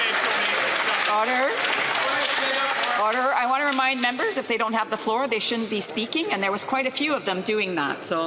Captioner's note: some Applause